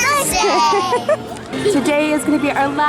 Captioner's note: laughs